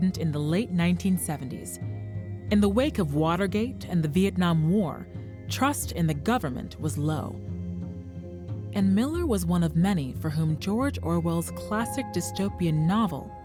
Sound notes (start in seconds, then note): none